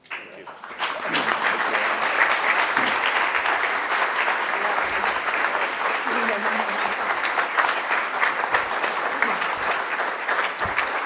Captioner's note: applause